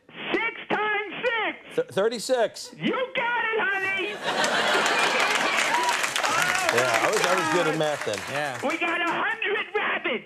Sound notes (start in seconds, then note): 3.8 audience laughs and cheers